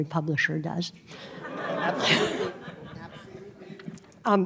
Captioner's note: laughter